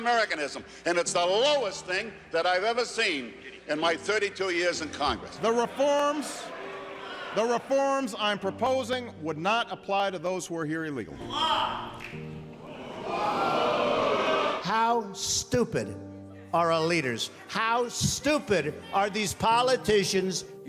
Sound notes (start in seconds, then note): 12.6 audience booing